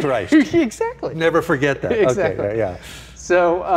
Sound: laughing; laughing

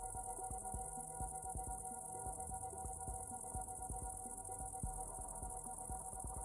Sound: insects chirping; somber music continues

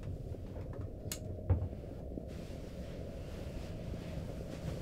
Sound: light clicks

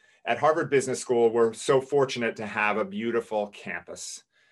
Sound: none

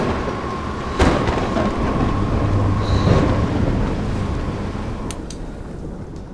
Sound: thunderstorm

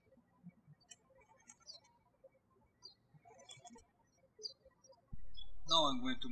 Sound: birds chirping

